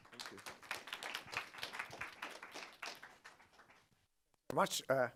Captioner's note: audience applauding